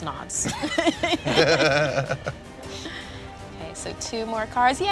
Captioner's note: laughter